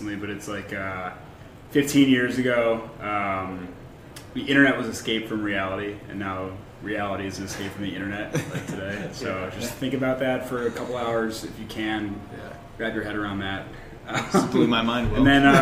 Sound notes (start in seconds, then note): 8.3 laughter